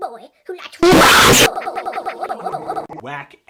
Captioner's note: sped-up reverse stuttering